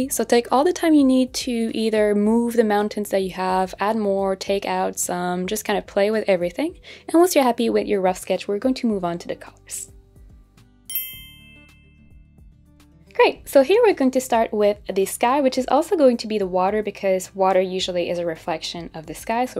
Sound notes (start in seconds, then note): 10.9 bell chiming